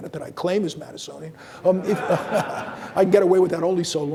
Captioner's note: audience laughing